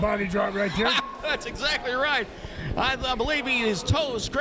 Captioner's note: laughing